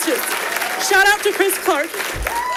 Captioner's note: audience applauding